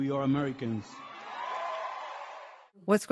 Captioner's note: audience cheering